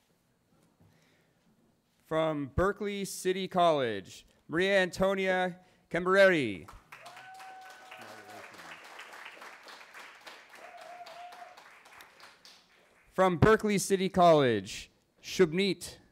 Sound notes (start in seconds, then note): 6.9 cheering